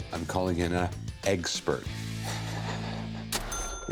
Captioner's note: laughs